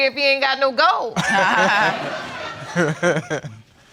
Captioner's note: all laughing